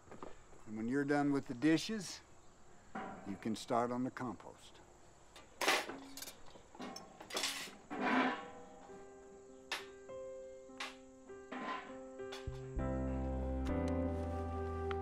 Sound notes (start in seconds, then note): none